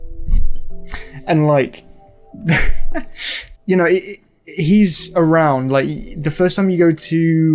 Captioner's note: laughs